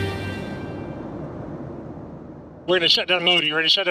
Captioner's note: lively music; jet whooshing